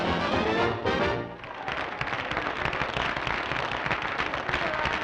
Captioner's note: applauding